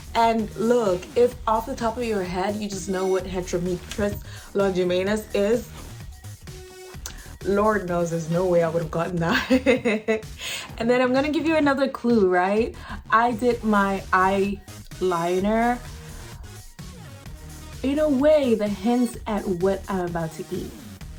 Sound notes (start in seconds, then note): 6.2 claps; 9.3 laughs